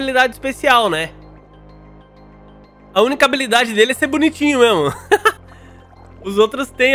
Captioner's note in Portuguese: risos